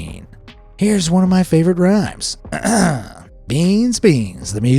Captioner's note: clears throat